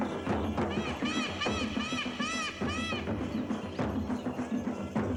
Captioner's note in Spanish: música con tambores; graznidos; música con tambores